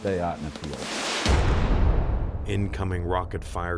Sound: fire whooshing; bomb booming

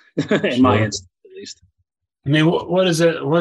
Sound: laughing

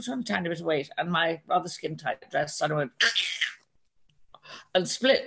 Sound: mimics sound of material tearing

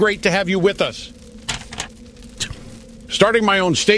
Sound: paper rustling

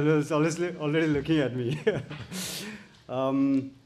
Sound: chuckles

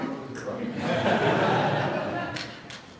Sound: laughter

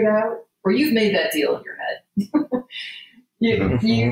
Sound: laughs

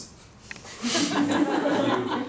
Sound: laughter

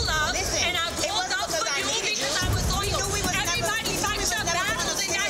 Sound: people arguing

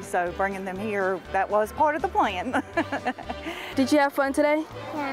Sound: laughs

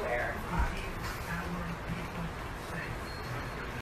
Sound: T.V. in background

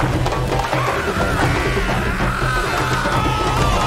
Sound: Baba yells; screams

